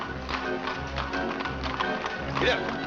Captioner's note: hooves trotting